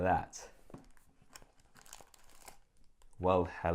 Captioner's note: plastic crinkling